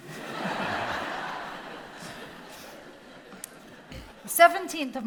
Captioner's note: audience laughing